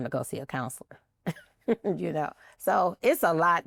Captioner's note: laughs